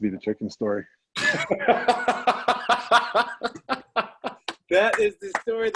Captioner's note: laughter